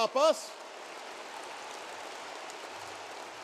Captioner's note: applause